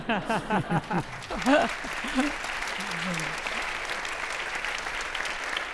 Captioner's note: audience laughing; audience applauding